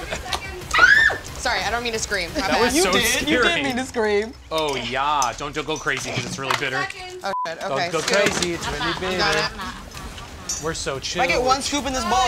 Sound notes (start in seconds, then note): 0.6 screams